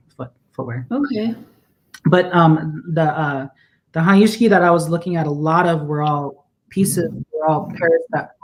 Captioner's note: speaking Dakota